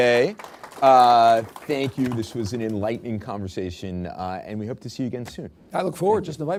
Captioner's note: applause